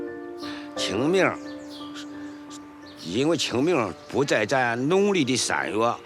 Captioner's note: hablan un idioma extranjero